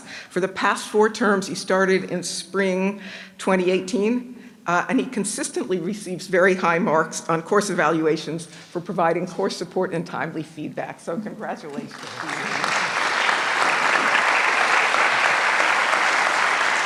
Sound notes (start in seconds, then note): 11.8 applause